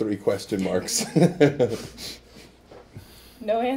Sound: laughs

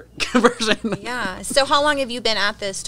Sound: laughs

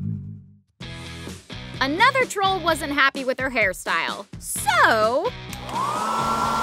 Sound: blowdryer

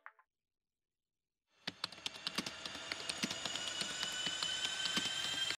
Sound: typing; plane engine accelerating

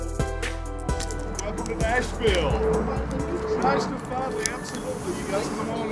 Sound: speaking off mic

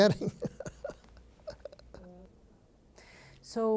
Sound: chuckles

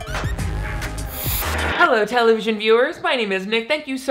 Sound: upbeat music; static buzzing

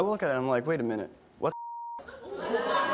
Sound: beep

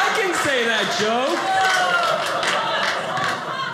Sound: audience laughing

